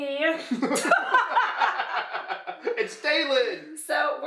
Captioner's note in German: und Mom lachen